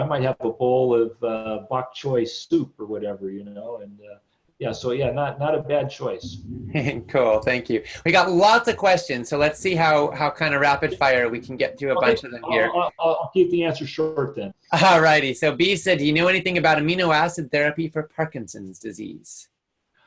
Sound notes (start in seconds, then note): 6.6 chuckles